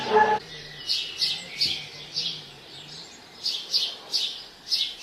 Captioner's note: birds chirping